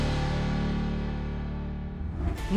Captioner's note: exciting music intensifies; graphics whooshing